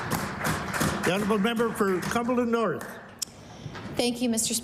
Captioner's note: applause